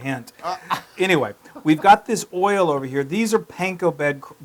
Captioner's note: laugh